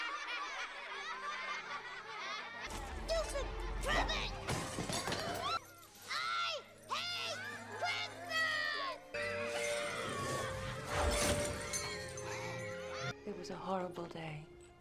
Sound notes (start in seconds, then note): 0.2 the teacher snickers; 9.4 the children scream as the tree crashes loudly